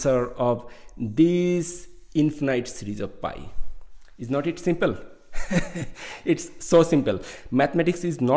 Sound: laughing

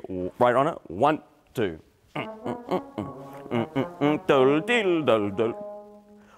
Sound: humming; upbeat orchestra music

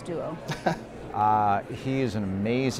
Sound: laugh

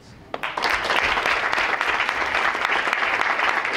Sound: audience claps

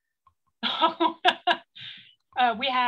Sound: laughs

